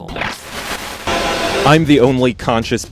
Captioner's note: static